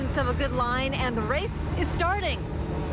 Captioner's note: boat engine running